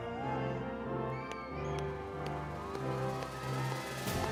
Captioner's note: audience cheering